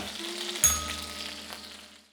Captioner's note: bell rings